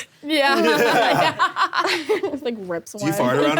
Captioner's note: laughs